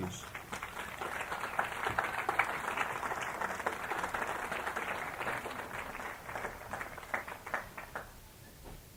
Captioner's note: applause